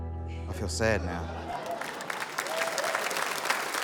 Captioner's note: applause